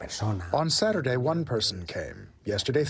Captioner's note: through translator